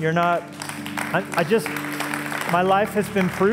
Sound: applause

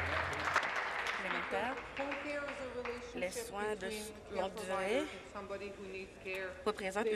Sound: applause

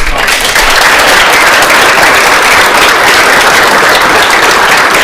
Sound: everyone applauding

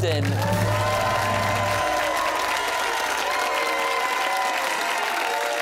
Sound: cheers and applause

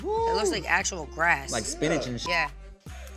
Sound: beep

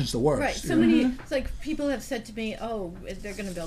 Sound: voiceover

